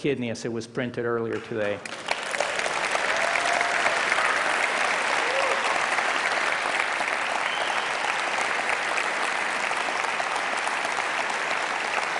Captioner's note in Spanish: Aplausos